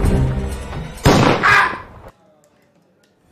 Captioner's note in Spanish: Disparo